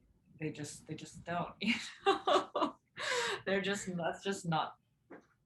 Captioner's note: chuckles